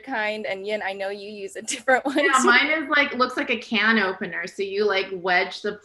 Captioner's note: laughs